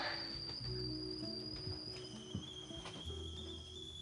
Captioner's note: kettle whistling